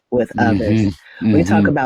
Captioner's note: laughs